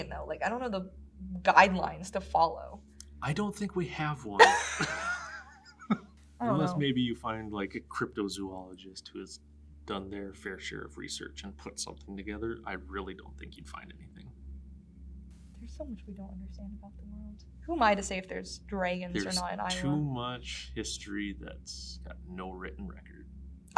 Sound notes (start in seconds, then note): 3.2 laughs